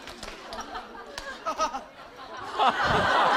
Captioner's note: haha